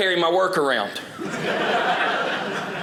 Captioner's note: audience laughing